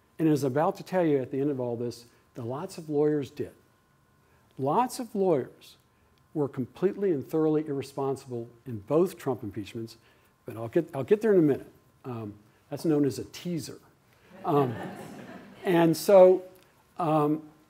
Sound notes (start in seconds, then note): 14.3 laughter